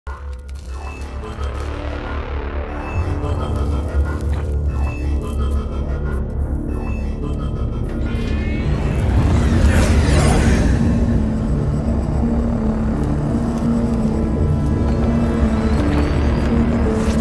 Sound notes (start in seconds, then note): 8.6 spacecraft zooming